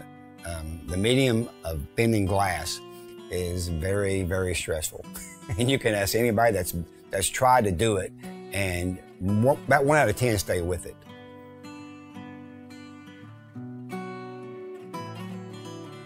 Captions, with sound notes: The medium of bending glass is very, very stressful. (laughing) And you can ask anybody that's tried to do it, and about one outta 10 stay with it. (mellow guitar music)